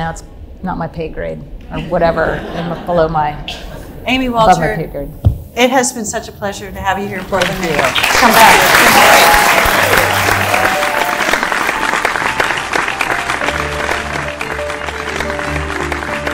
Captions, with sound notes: it's not my pay grade, whatever, below my, above my pay grade. - Amy Walter, it has been such a pleasure to have you here in Portland, Maine. - Thank you. (audience clapping loudly) - Come back. - Thank you, it's been great. Thank you. (audience clapping loudly) (inspirational orchestra music)